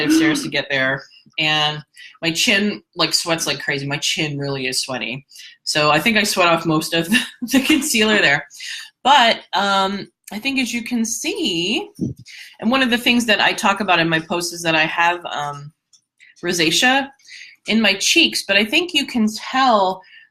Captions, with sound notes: of stairs to get there, and my chin sweats like crazy, my chin really is sweaty, so I think I sweat off most of the (laughs) concealer there. But I think as you can see, and one of the things that I talk about in my post is that I have rosacea in my cheeks, but I think you can tell